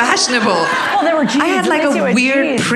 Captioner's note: audience laughing